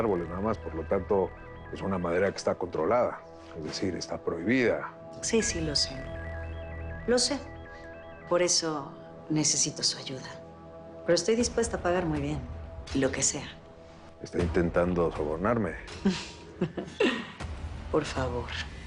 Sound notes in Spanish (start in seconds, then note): 6.6 Vuelve a sonar el celular